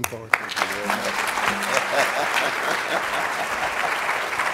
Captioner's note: audience applauding